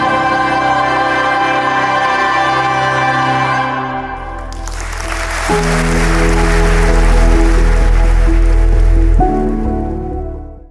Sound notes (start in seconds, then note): 4.2 audience claps; 5.3 warm music